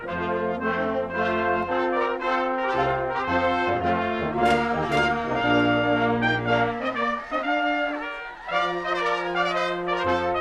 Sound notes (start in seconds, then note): 4.4 party popper blasts; 6.1 orchestral music